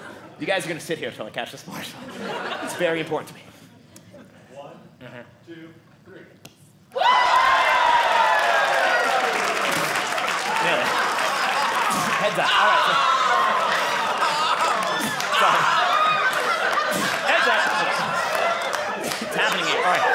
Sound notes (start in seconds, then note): 6.5 audience cheering; 12.9 audience laughing